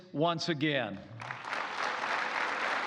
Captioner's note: applause